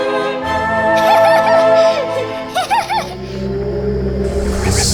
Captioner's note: girls giggle; eerie music